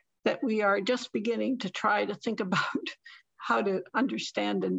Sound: laughter

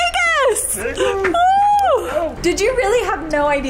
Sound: squealing

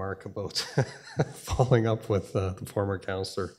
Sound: laughing

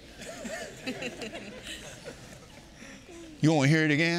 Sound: congregation laughing

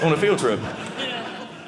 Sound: audience laughing

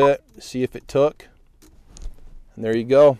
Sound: beeps

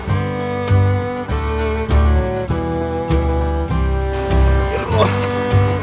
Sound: cries cries

